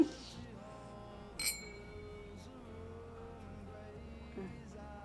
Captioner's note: glasses clinking; soft music